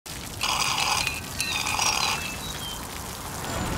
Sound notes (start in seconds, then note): 0.4 slurping drink